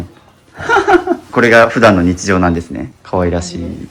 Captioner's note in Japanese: 笑い